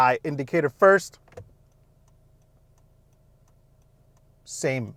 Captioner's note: indicator clicking lightly